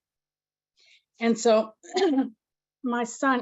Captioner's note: coughs